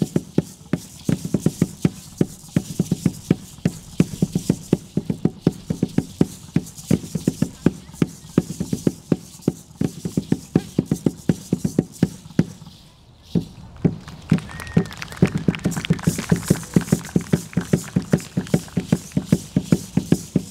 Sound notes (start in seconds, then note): 13.6 audience applauding; 16.1 drum beating and rattles sounding